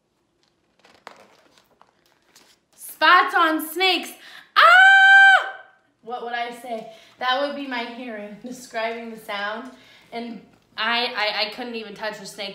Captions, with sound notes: Spots on snakes." (screams) What would I say? That would be my hearing, describing the sound, and I couldn't even touch the snake.